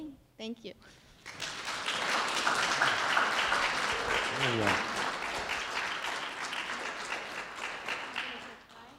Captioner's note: applause